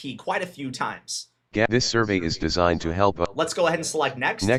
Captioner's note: NVDA talking